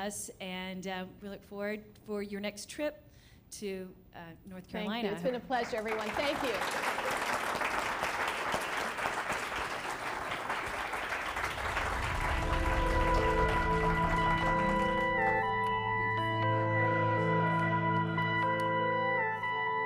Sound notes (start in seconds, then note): 7.1 applause; 11.8 closing music